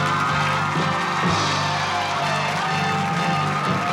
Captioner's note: cheering and applause; upbeat music